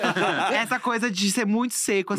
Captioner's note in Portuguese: risos